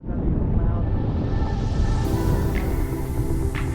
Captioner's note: air swishing